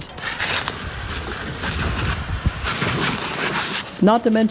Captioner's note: water splashing